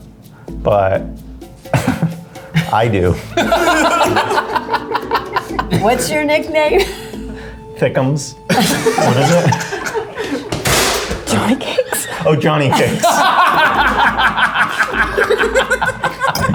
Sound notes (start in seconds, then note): 4.1 laughs; 8.5 all laugh; 13.6 laughs